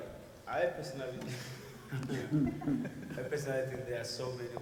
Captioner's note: people laugh